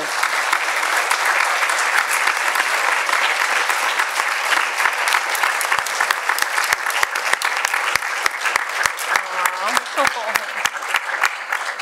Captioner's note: applause